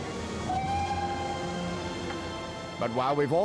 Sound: train whistle toots

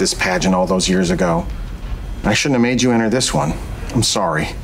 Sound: none

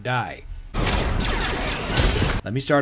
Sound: reflected blaster fire noises

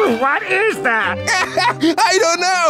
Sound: sniffing

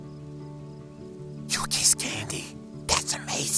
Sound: whispering

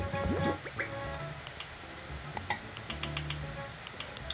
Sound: button noises

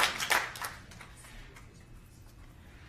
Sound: applause

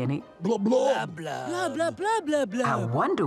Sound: speaking Blobian

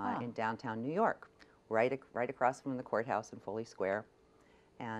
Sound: none

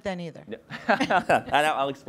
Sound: both laugh

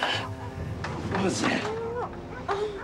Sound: sighing

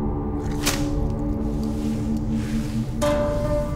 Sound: mop sloshing

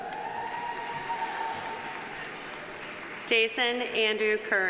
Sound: audience cheering; audience applauding

